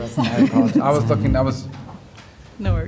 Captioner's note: laughter